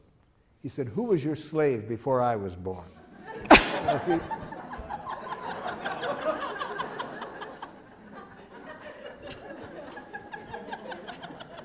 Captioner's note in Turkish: Gülüşmeler